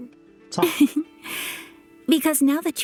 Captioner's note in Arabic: إيمي تضحك